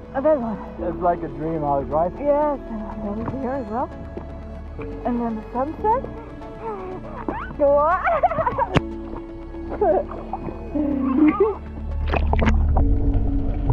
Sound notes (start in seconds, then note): 7.3 laughs